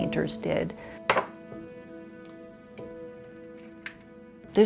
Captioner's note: egg taps